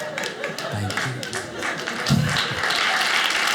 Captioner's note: audience applauding